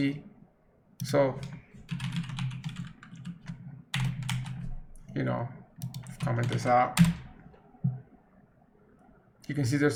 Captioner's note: rapidly typing